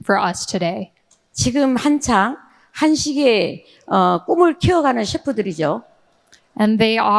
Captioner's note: speaking in foreign language